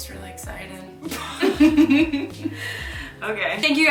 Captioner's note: laughing